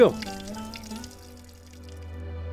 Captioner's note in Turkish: Su Şırıltısı